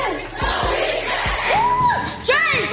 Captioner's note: group Shouting